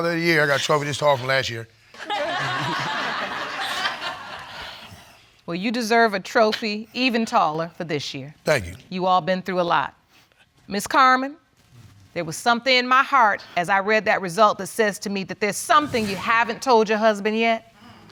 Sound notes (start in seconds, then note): 2.0 audience laughing